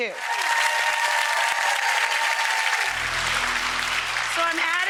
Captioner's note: audience applause